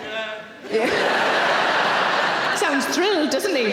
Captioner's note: audience laughing